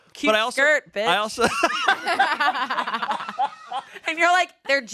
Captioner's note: everyone laughs